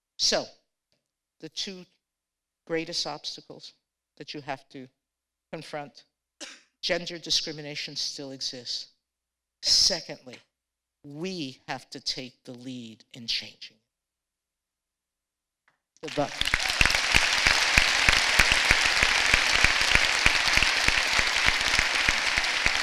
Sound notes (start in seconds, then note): 16.0 applause